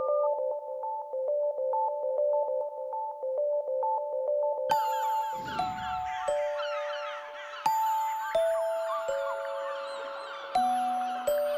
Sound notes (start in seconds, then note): 4.8 seagulls crying; 5.2 Graznido de gaviotas